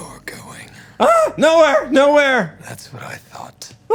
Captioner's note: shouts